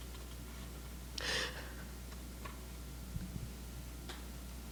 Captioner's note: reader sobbing